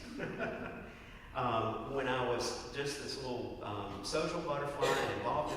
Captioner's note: laugh